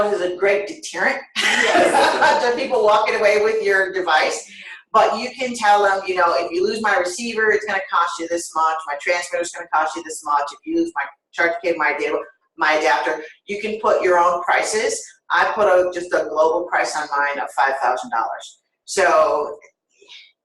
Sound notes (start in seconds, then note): 1.4 laughter